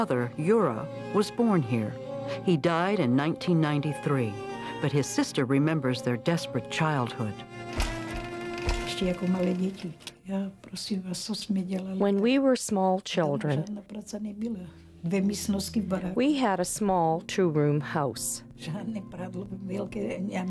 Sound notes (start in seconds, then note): 9.7 speaking Czech